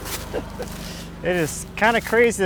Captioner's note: chuckling